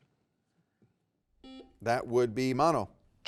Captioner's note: buzzer beeping